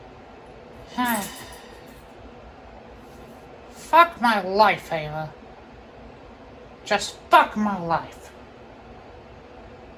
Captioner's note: sighs